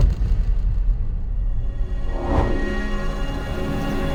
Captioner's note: air whooshing